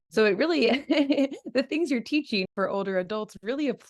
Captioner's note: laughs